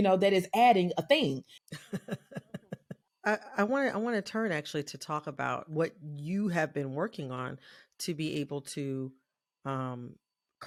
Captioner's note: laughter